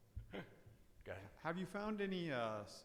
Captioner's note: laughs